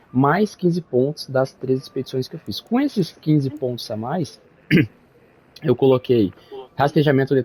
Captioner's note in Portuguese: limpando a garganta